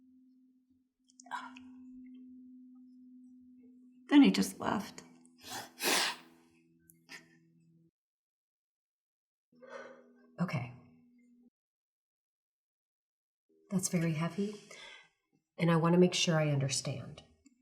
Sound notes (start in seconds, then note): 5.4 sniffles; 9.5 exhales